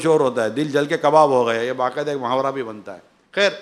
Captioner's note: in Urdu